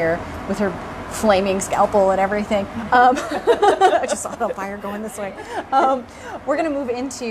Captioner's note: laughter